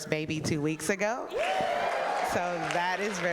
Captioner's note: audience cheering